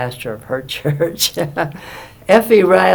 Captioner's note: laughs